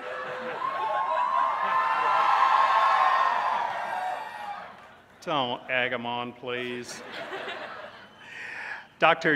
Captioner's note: cheers